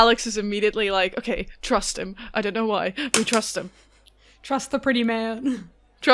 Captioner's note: dice clickety clacks